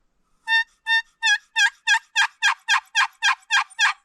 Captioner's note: turkey calling